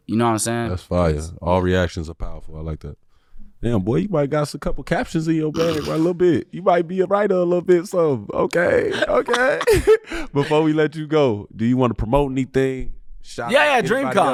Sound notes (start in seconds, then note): 6.8 laughing; 8.8 laughing